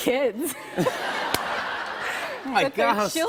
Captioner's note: laughter